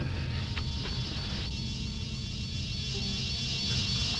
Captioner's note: wasps buzzing